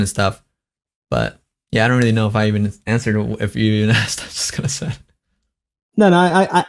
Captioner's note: laughs